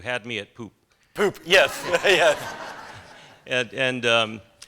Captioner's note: laughter